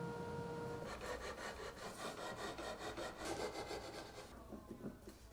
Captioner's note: wood scratching